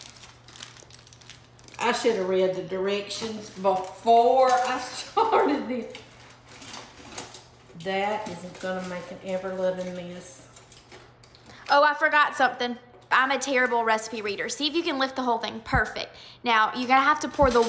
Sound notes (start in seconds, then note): 4.3 laughs; 5.6 foil rustling